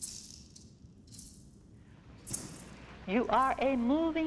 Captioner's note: rattling